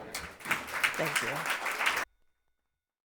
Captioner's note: audience clapping